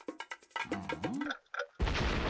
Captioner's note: clinking; clock ticking